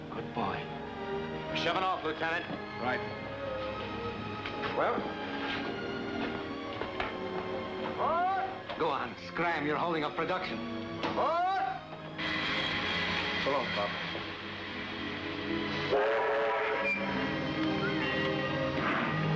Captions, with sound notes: Good boy. - We're shovin' off, lieutenant. - Right. Well.. Go on, scram, you're holding up production. Board! So long, pop. [train whistles]